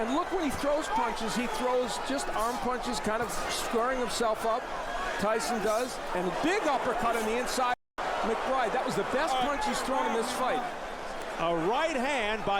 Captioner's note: applause